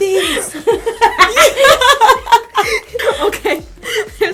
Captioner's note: whispering; laughter